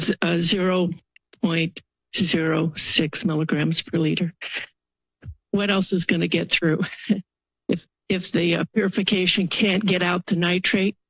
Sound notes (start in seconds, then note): 7.2 laughter